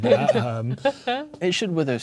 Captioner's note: players laughing